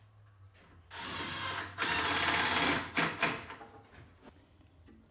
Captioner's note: drill whirring